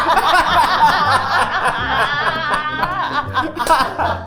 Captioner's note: group laughing